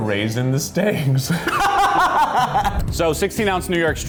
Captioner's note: laughs; laughs loudly